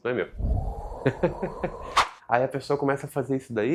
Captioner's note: laughs